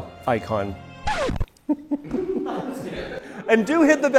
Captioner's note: laughter